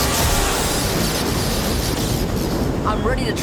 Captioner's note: thundering